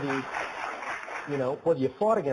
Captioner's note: applause